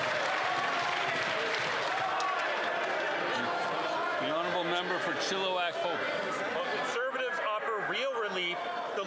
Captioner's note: some Applause